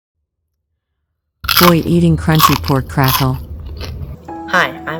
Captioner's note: Crunch